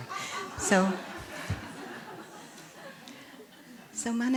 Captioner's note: laughter